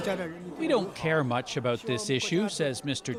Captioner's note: speaking chinese